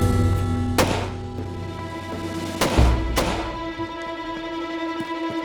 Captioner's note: footsteps; gunshots inside saloon, man runs away